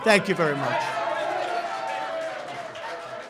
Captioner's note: shouts and applause